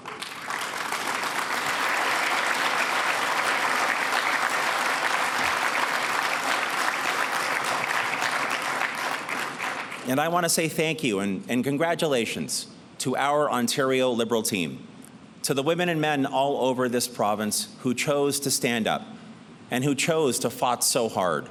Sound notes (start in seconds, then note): 0.0 applause